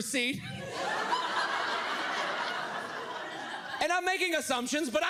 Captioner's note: audience laughs